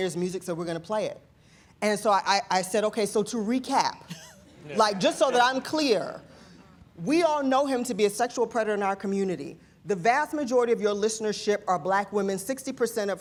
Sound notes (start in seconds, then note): 4.1 laughter